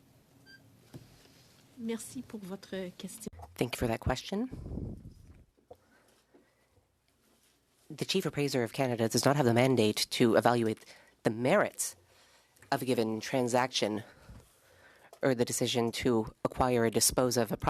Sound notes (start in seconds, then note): 6.7 speaking French